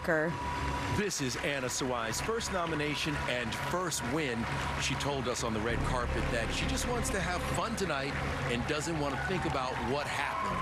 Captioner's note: applause